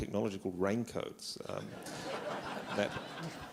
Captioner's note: laughter